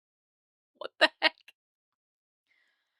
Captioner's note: laughs